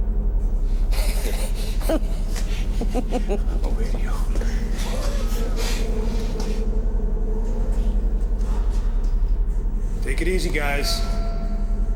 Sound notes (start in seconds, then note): 3.5 chuckles; 11.7 tense eerie ambient music